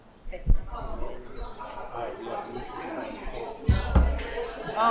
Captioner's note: audience faintly talking